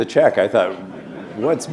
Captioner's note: laughter